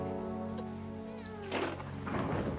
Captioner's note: baby whining